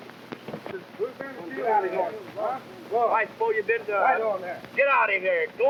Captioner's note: cowboys clamoring